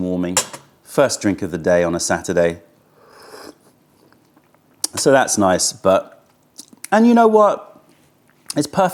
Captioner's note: sips tea